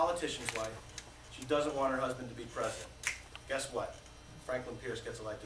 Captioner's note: snaps finger